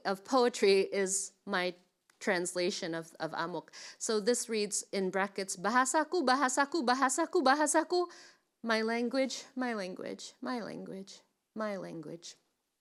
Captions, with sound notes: of poetry is my translation of amuk. So this reads in bracket (speaking in foreign language) my language, my language, my language, my language.